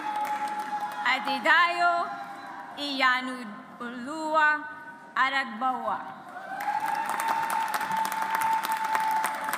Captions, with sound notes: Adedayo Iyanuoluwa Aragbuwa. (AUDIENCE APPLAUDS)